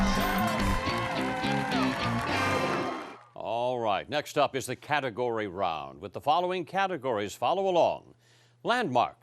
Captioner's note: cheering and applause